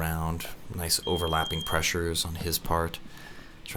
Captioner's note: beep